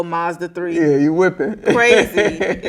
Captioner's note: laughing